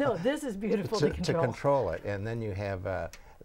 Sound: laughing

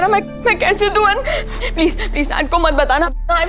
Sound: bell sounds

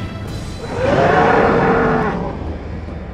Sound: roar!

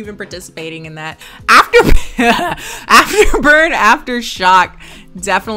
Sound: laughs

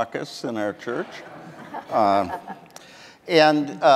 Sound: audience laughing

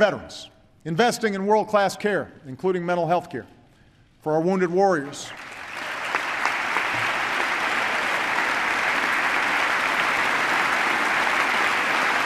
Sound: applause

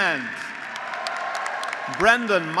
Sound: graduates applauding; graduates cheering

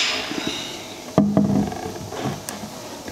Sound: rattling, creaking

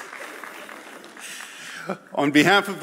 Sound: audience laughs

